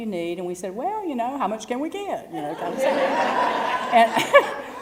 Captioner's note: laugh